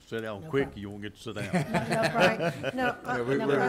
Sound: some laughing

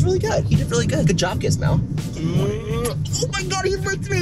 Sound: makes kissing noise

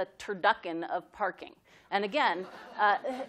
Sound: laughter

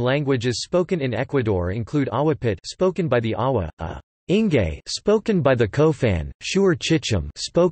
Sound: spoken by the Cofan

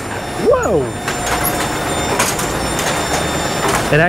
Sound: machine whirring

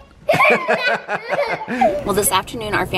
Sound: laughter

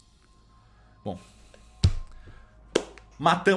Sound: clap

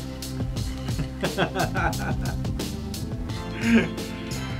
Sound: laughing

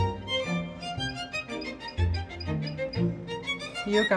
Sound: beeping

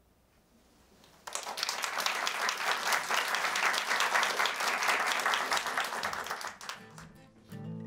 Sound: applause

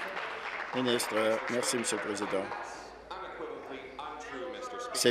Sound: applause

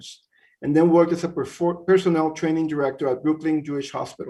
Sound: stutters

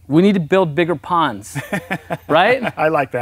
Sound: laugh

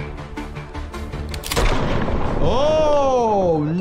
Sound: dramatic music; gun firing

